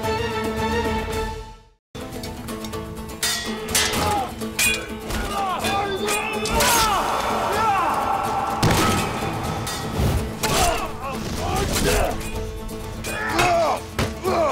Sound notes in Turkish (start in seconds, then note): 3.2 Kılıç sesleri; 5.3 Dövüşme sesleri; 10.2 Kılıç sesleri